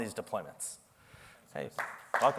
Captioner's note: applause